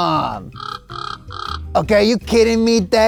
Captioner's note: squawks